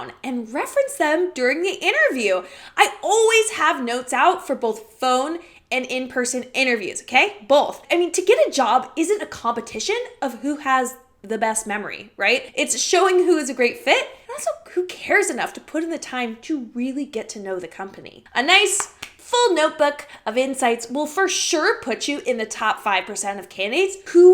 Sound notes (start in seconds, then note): 18.7 slaps hands